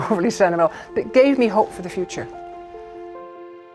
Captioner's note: chuckles